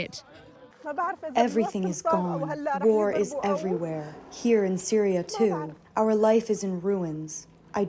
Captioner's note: through translator